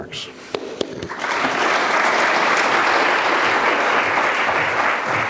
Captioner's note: audience applauding